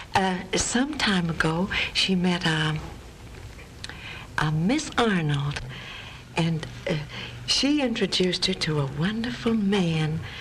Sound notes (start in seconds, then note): none